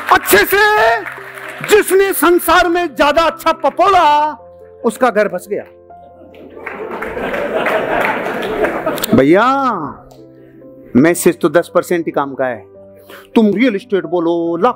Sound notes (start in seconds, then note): 6.2 laughs & applauses